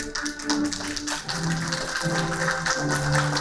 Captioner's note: applauding